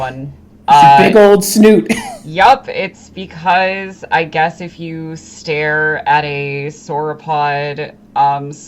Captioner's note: laughing